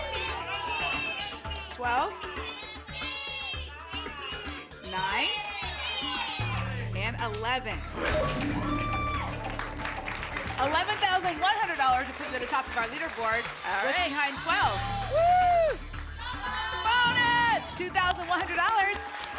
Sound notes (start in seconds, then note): 0.0 audience shouting numbers; 2.9 audience shouting numbers; 7.9 lock sound; 8.9 applause and cheering